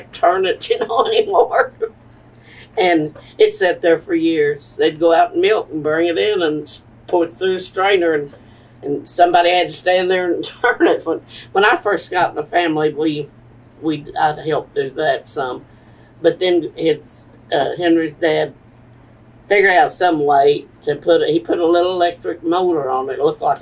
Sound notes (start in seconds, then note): 3.1 laughs